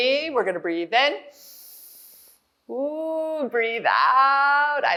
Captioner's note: inhales